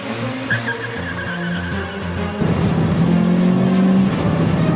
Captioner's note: tires screeching